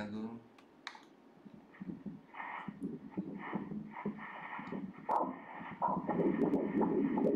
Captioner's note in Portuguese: batimentos cardíacos